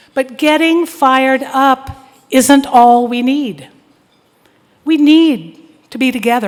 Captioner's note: none